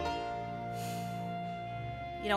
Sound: exhales

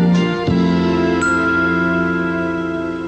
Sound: cup dings

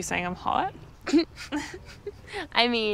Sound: both laughing

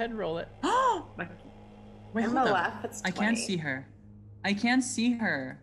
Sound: gasps

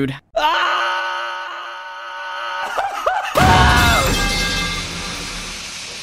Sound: screaming

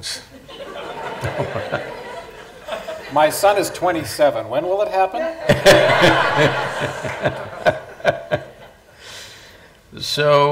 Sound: laughter; laughter

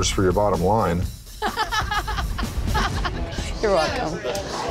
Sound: all laughing

